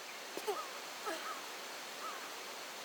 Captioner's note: waterfall sound